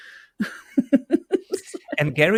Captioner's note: laughs